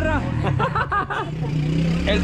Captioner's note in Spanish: Risas